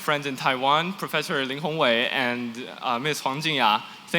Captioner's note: non-english